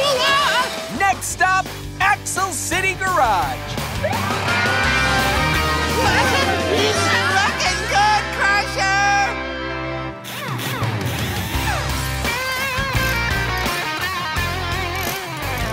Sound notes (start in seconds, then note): 4.0 Crusher screaming; 10.1 upbeat music playing